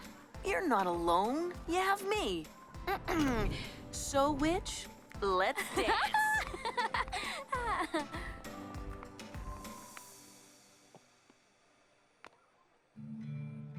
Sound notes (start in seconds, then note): 5.6 Terra laughs; 13.0 slow music